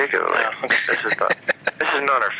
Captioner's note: laughter